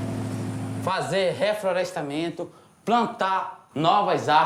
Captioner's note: Portuguese spoken audio